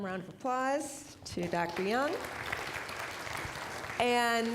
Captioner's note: applause